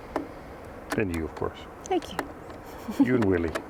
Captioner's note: laughs